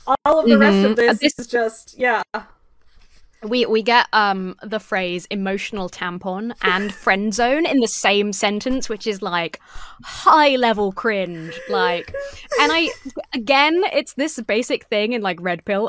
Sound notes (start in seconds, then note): 11.3 laughs